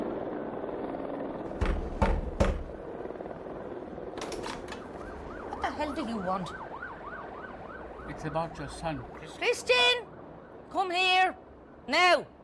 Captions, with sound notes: (knocking on door) - What the hell do you want? - It's about your son, Christian. - Christian, come here, now.